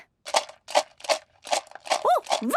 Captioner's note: objects shaking